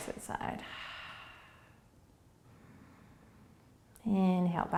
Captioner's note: breathing